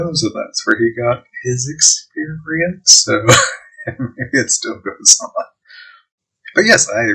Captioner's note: chuckling